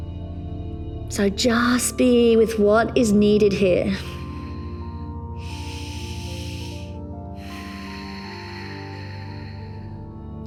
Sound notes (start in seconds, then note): 0.1 calm music; 5.9 inhales; 7.8 exhales